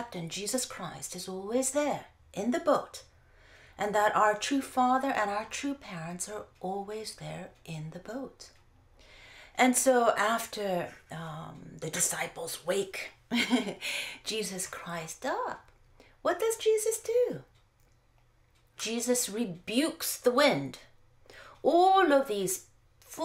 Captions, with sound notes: Jesus Christ is always there, in the boat and that our True Father and our True Parents are always there in the boat. And so after the disciples wake [laugh] Jesus Christ up, what does Jesus do? Jesus rebukes the wind. All of these foolish talks and you know, complaints